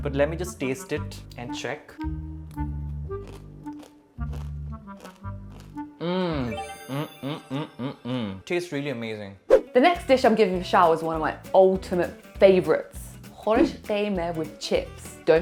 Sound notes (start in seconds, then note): 3.1 crunching sound